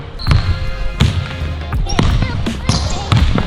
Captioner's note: ball Bounces